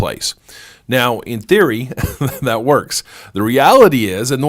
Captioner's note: laughs